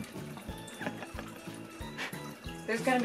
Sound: laughs

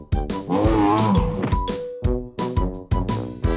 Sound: hippo roars

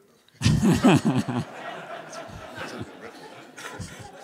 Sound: laughter

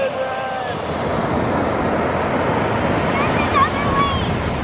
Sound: loud waves crashing

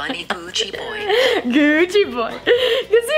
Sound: laughter

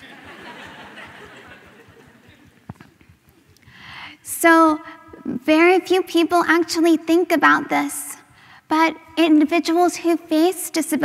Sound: laughter

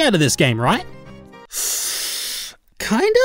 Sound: hesitant inhale

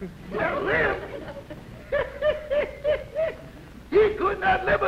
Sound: chuckles

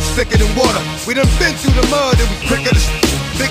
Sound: whistles

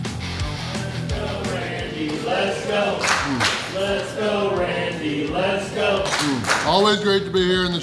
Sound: crowd

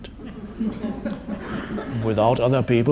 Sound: audience laughs

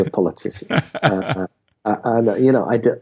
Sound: laughing

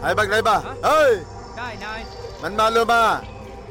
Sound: Malay Language

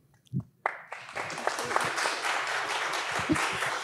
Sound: audience applauds

